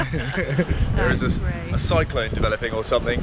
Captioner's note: laughs